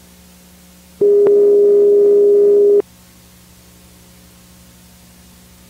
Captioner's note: high-pitched humming